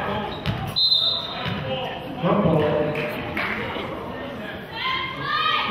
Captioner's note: whistle blows